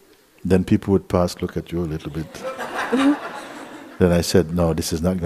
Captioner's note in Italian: Risate